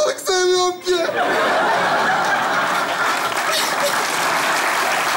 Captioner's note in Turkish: Kahkaha ve alkış sesleri